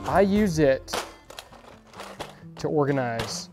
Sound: latch clicks

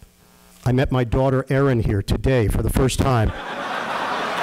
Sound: laughter

